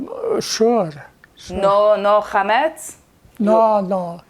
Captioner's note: hebrew